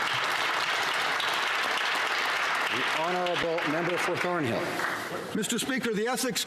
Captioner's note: some Applause